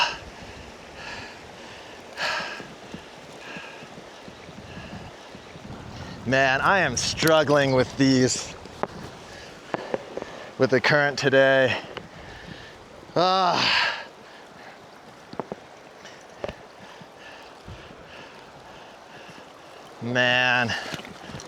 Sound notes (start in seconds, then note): 0.0 sighs; 13.1 sighs